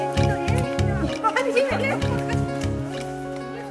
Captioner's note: laughing